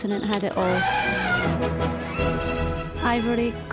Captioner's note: elephant shrieks